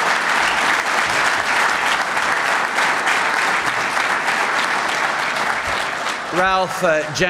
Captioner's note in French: Applaudissements